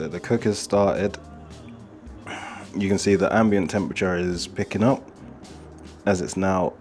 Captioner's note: sighs